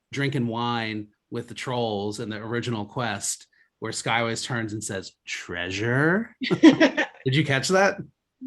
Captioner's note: both laugh